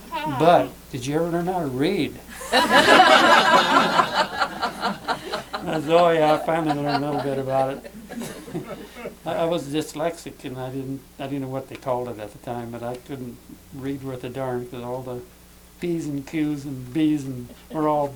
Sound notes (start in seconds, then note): 2.4 laughter